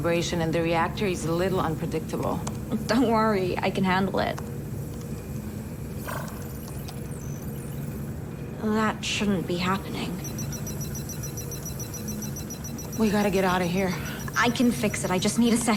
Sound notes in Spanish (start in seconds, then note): 6.0 pitido; 9.9 alarma